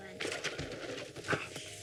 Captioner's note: loud clattering